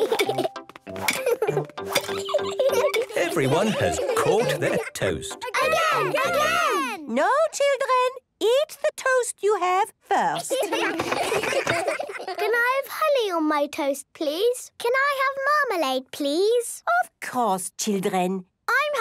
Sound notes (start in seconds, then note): 5.4 children calling out